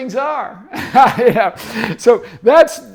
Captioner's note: laughs